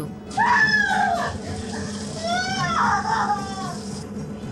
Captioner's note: intense screaming; intense music